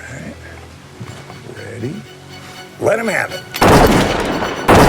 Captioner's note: gunfire